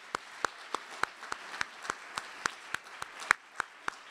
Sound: audience applauding

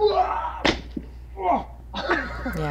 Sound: dull thud; man groans in pain; laughter off screen

